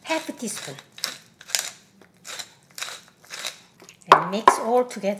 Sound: grinding the pepper

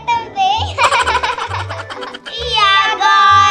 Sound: laughing

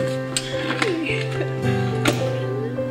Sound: Amber chuckles

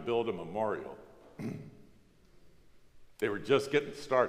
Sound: coughs

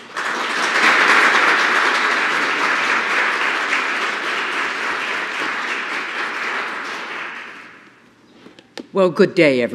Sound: applause

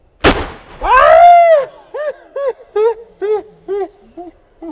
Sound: balloon popping; screaming

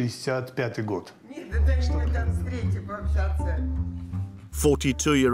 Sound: Russian spoken audio

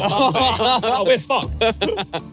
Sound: everyone laughing

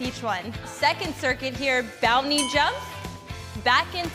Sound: bell chimes

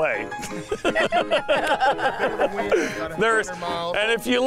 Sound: laughing

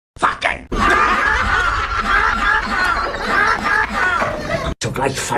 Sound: everyone laughing

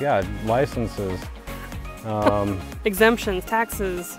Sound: chuckle

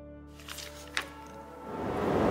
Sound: soft piano music; paper rustles; truck whirs

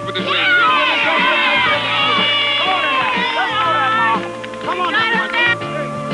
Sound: cheering

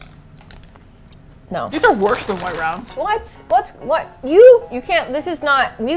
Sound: frustrated stammering

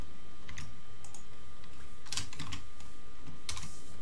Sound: keyboard clicking

